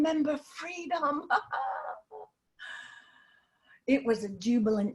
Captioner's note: laughter